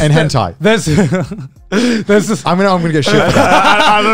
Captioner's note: murmurs